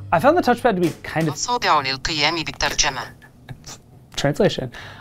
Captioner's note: pin speaking in foreign language